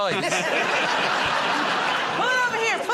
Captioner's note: laughter